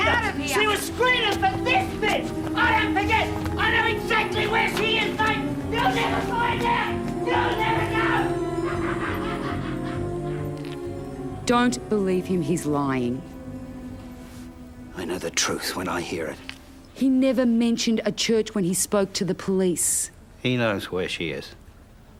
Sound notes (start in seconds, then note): 7.2 cackles